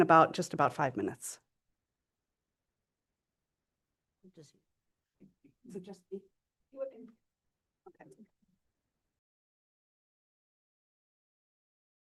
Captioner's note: pause